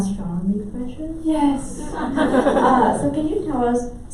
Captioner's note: laughing